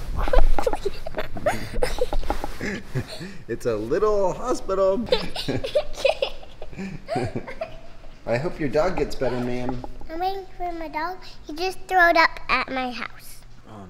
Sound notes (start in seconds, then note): 0.1 giggle; 5.0 giggles